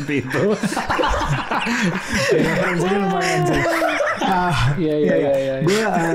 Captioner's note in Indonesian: tertawa